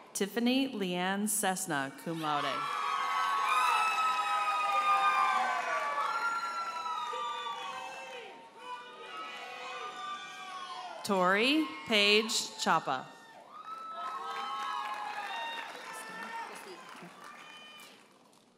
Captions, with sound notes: Tiffany Leanne Cessna, cum laude. (audience hollers and applauds) Tori Paige Chapa. (audience cheers and applauds)